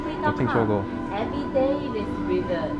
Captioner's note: mandarin